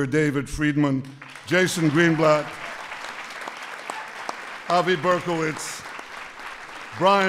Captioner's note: applause